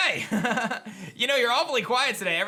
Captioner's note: laughs